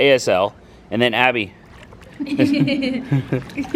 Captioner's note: laughter